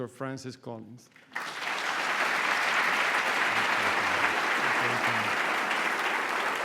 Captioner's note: applause